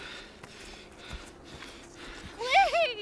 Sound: heavy breathing/exhaustion

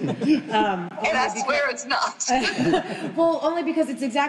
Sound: group laughing

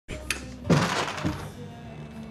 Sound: light switches on

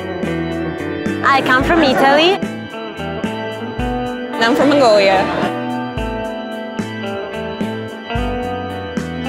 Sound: laughs

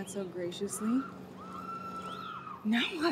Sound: woman screaming

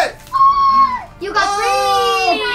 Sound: gasps

